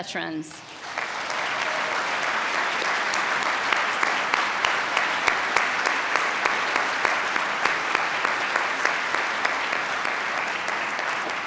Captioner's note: cheering and applause